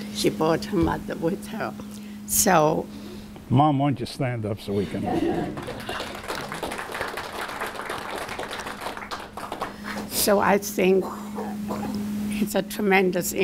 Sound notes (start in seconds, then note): 4.7 laughter; 5.4 applause